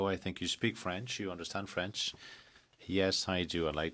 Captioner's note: speaking french